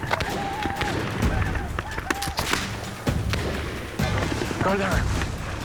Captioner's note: gunshots, shouting